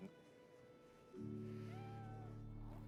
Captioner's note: cat crying